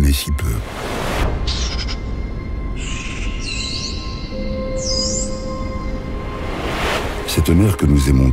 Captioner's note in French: Chants de dauphins